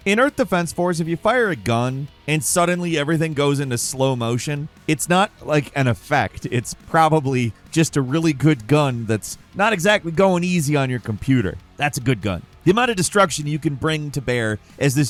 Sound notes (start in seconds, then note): none